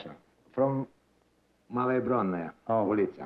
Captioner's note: non-english